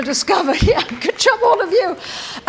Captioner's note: applause